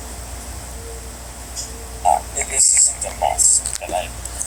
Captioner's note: none